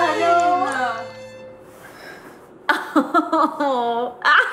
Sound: laughing

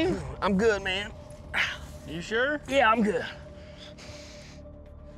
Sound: none

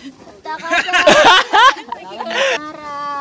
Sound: le husband laughing sincerely

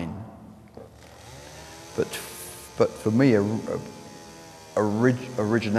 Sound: chainsaw wurring

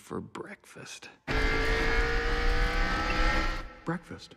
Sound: vrooooooom

